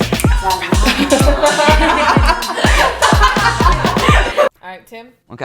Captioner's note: laughter